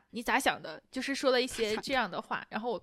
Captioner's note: using Dongbei dialect